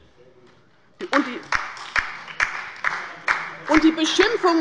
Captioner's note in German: Beifall bei der LINKEN